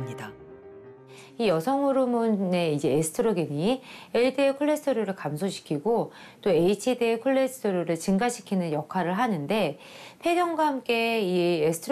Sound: voiceover

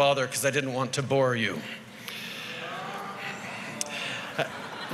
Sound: groans

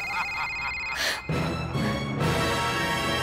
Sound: laughs evilly; cellphone ringing, dies; suspenseful music plays

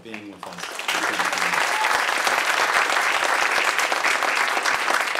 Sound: audience applauds

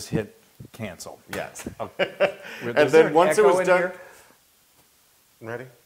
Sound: laugh

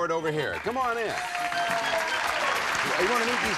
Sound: applause

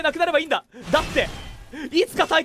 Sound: inhales

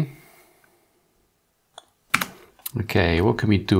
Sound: blank Audio

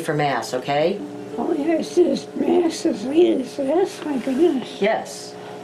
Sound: murmurs

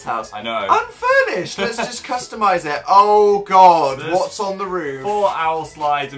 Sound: laughs

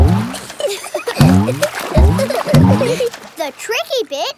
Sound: giggling

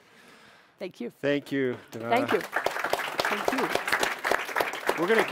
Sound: audience applauds

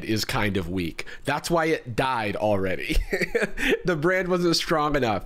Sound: laughs

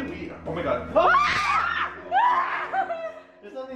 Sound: screaming

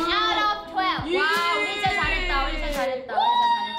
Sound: speaks in Korean

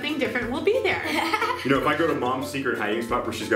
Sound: laughing

